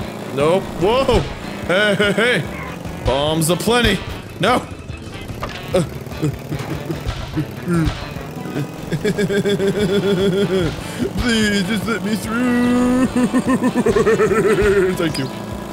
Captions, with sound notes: no, woah, hey, hey, hey bombs a plenty no (grunting) (laughter grunting) please just let me through (evil laughter grunting) thank you